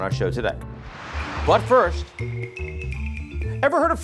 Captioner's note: air whooshing; quirky jazzy music